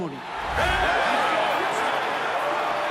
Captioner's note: cheering